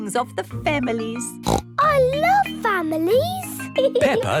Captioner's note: snorts